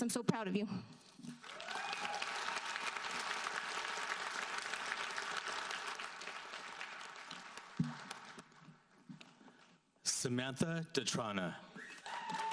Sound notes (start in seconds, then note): 1.4 audience applauds